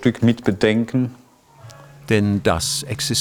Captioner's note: distant cackling